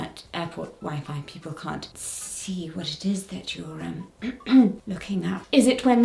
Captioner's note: clears throat